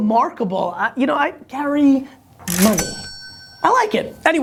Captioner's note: cash register ringing